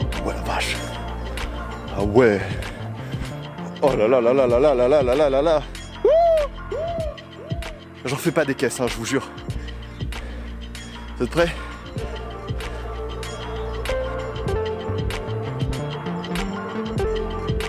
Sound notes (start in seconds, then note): 6.4 echo